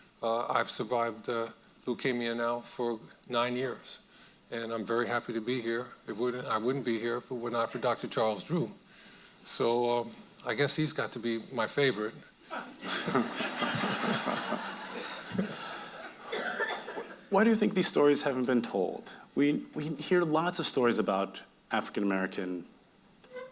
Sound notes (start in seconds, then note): 12.6 audience laughing